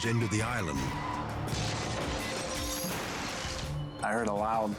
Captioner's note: pump crashing